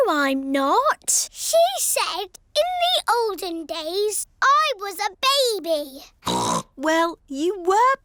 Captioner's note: snorts